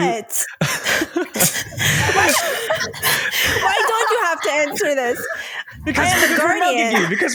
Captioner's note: laughter